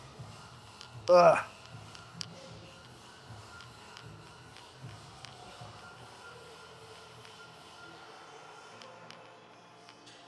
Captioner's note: grunts; breathes heavily